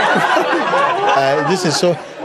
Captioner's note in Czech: smích